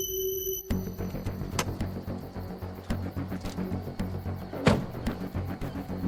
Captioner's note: suspenseful music; door rattling; door thumping; suspenseful music continues